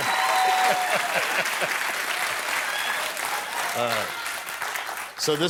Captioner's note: cheers and applause